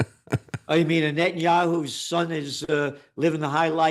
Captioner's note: laughs